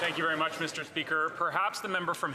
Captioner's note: applause